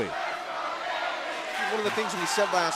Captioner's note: fans chanting